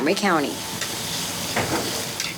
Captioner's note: food sizzling